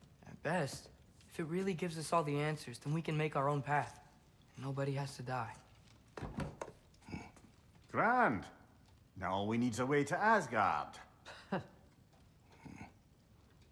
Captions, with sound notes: At BEST... ...if it REALLY gives us all the answers, then we can make our own path. Nobody has to die. (grunt) GRAND... ...now all we need’s a way to Asgard! (laugh) (grunt)